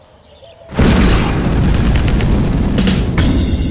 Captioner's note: explosion